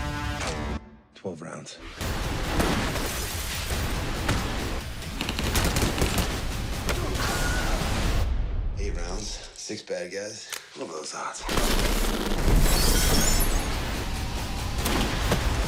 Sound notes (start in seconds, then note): 2.2 gunfire; 3.0 glass breaking; 12.6 glass breaking